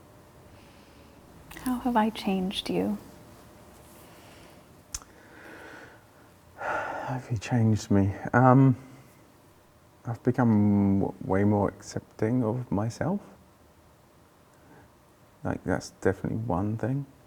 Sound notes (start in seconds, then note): 4.3 sighs